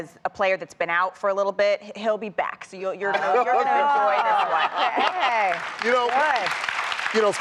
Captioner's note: applause